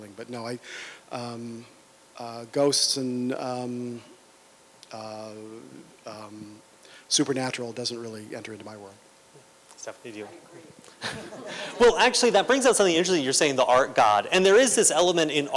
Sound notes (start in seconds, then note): 10.9 laughter